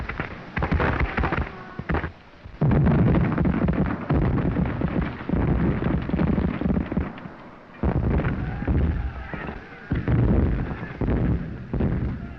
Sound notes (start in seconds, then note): 9.7 explosions continue